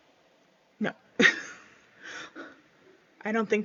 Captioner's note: laughs